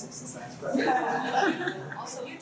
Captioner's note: laughter